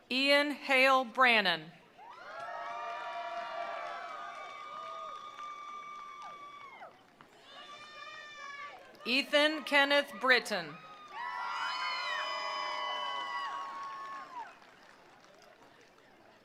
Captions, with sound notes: Ian Hale Brannan. (attendees applauding) (attendees cheering) Ethan Kenneth Briton. (attendees applauding) (attendees cheering)